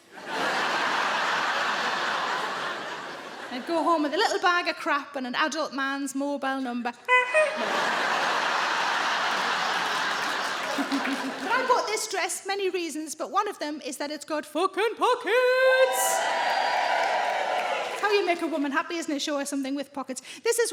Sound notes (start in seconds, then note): 0.0 audience laughing; 7.0 Sarah imitates horn honking; 7.1 audience laughing